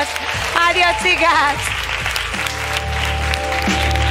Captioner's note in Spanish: Aplausos